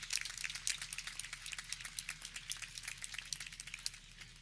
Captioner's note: audience clapping